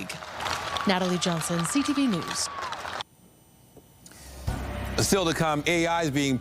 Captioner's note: applause